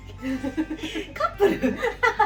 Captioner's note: laughs